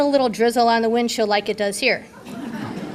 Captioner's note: audience laughter